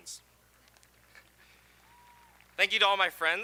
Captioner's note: audience applauding